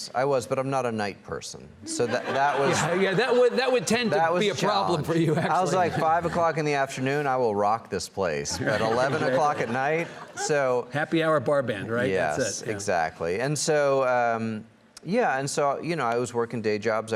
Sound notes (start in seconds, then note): 1.9 audience laughs